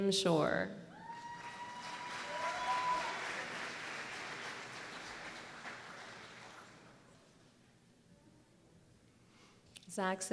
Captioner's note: applause